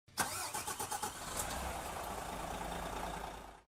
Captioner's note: car engine roaring